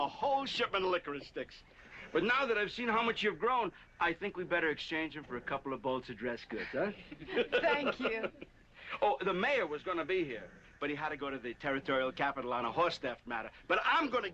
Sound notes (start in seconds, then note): 6.5 laughing